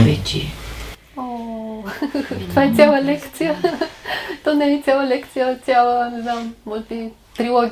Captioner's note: is laughing